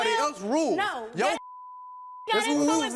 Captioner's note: beep